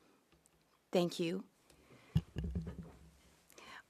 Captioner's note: speaking French